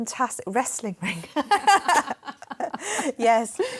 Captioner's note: laughter